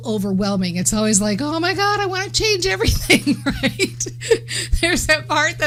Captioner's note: laughs